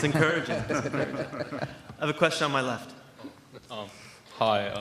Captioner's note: laughter